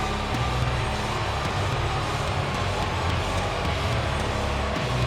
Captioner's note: audience jeers